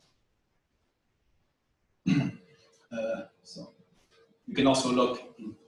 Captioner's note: pause